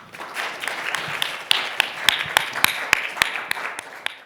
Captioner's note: audience applauding